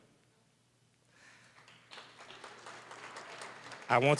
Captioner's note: applause